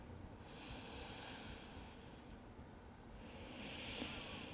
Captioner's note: deep breathing